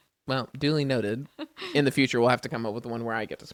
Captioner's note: laughs